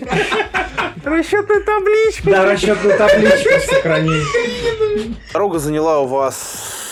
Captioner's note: laughing